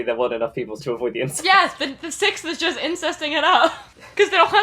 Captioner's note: laughing